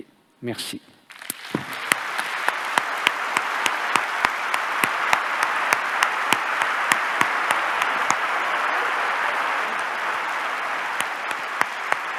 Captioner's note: applause